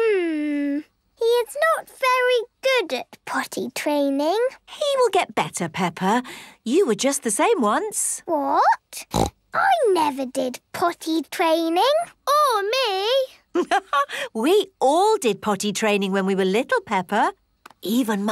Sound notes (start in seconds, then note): 9.0 snorts; 13.9 laughs